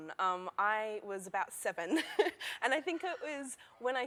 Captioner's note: laughter